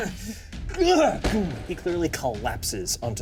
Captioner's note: Odie laughs; body thuds